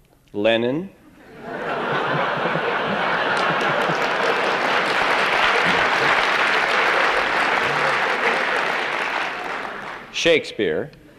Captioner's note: laughter and applause